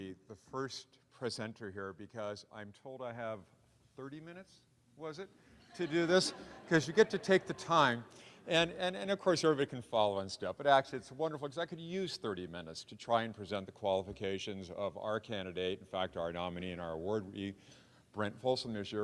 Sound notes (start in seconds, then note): 5.7 audience laughing